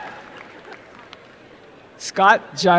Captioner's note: applause and cheering